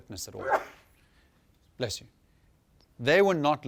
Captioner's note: coughs